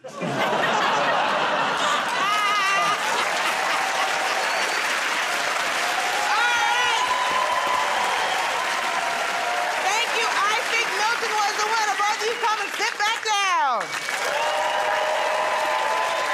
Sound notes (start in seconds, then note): 0.0 laughter; 3.3 cheers and applause